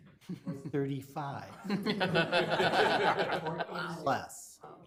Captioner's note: people laughing